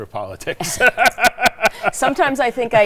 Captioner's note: laughing